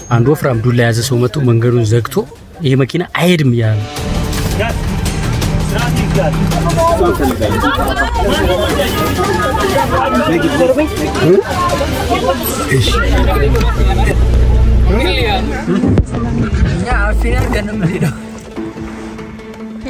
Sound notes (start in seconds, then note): 3.9 crowd noise